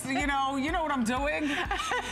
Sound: laughter

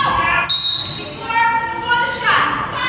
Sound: whistle blows

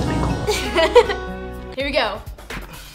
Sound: laughing

